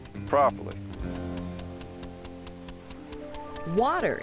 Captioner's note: sound of turning sprinkler head